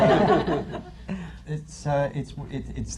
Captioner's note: laughter